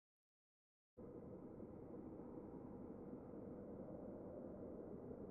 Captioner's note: low rumble